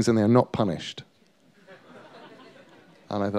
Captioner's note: laughter